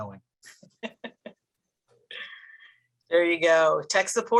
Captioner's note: laughing